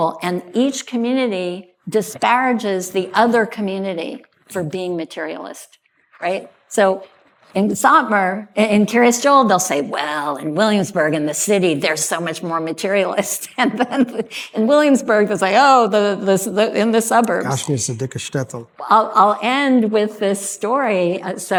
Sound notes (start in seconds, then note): 17.5 speaking yiddish